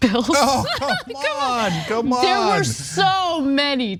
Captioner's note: laugh